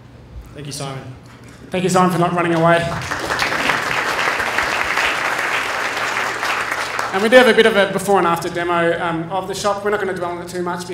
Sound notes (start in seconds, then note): 4.4 applause